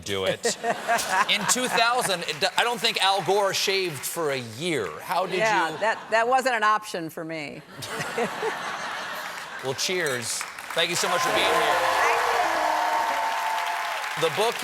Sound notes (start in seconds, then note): 7.6 laughter; 11.8 applause